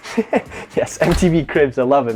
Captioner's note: laughs